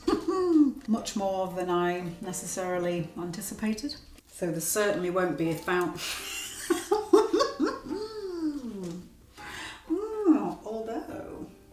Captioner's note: laughs